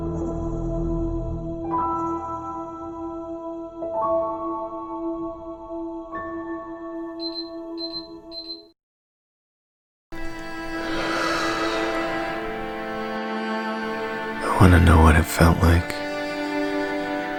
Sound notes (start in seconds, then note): 7.2 beeping; 10.2 breath